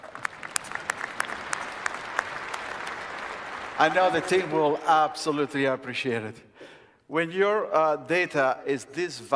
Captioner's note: applause